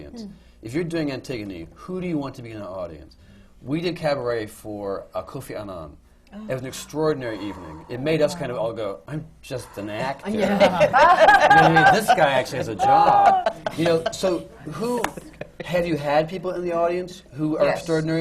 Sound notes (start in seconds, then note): 7.2 gasps from the panel; 10.4 laughter